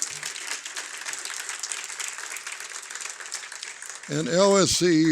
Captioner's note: applause